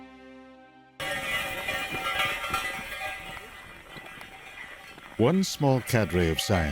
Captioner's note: metal clanking